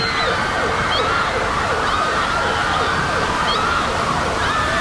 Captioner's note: water rushing